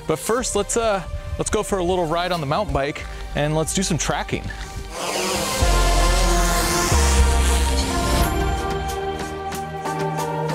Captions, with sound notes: But first, let's go for a little ride on the mountain bike and let's do some tracking. (drone buzzing) (bright upbeat music)